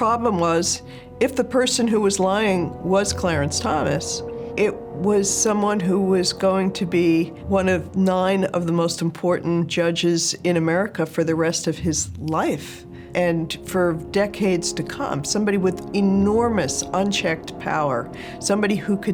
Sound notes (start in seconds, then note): none